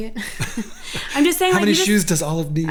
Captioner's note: both laughing